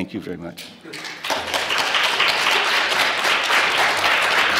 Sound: clapping

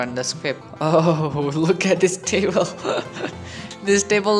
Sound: laughtet

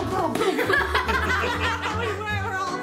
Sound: laughing

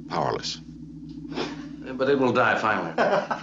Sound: chuckle

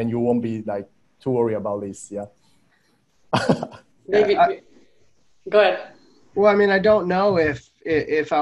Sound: chuckles

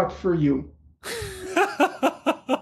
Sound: laughter

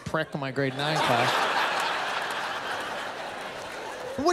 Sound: laughter

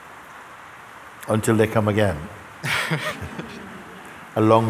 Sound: laughter

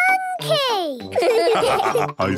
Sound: laughs; all laugh

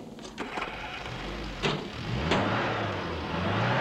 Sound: engine revving

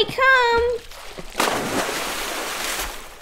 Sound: splash!

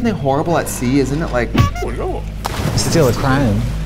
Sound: horn

